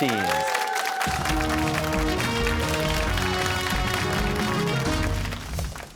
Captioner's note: cheers and applause